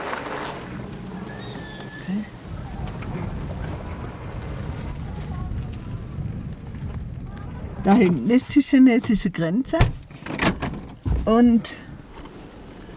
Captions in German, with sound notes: (Leise Stimmen) Da hinten ist die chinesische Grenze. Und ...